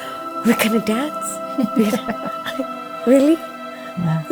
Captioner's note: laughs